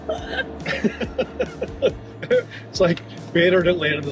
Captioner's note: both laugh